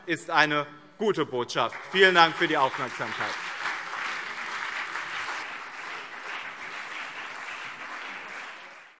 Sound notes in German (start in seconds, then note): 3.7 Lebhafter Beifall BÜNDNIS 90/DIE GRÜNEN und CDU